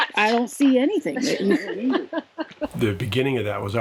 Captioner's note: laughed